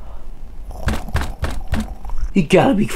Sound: pounding and growling

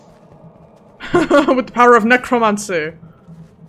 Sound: chuckles

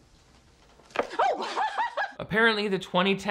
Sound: laughs

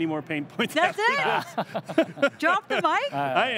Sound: all laugh

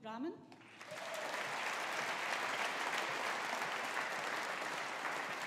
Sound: audience applauding

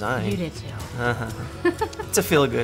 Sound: laughs

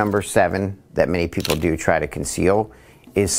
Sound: camera clicks

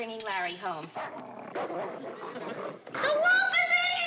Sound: larry snarling

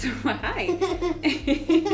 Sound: laughs

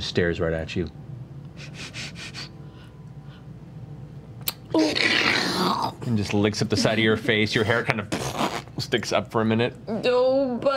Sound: slurps

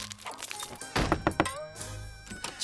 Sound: knocking

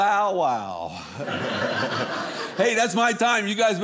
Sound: audience laughing

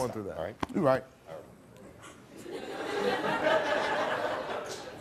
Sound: laughing

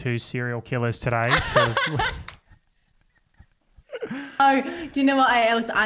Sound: laugh

